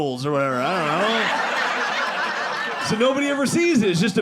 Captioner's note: audience laughing